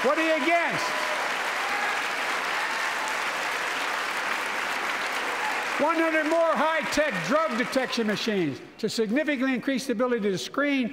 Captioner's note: applause